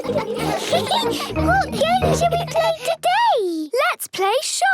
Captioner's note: giggles